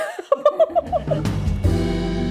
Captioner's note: laughing